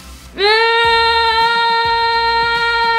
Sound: yells

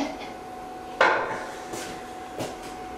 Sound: toilet seat clangs

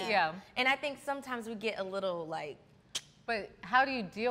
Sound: tongue clicks

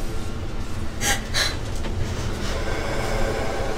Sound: whimpering

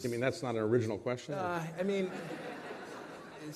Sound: laughter

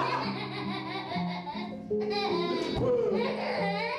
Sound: young laughs

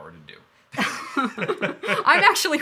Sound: laughing

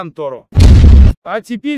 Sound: sound of an epic explosion

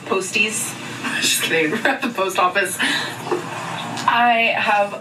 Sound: chuckles

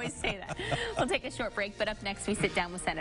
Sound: chuckling

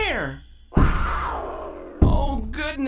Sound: roar

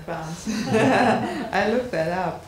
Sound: audience laughing

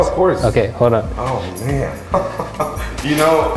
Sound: laughs

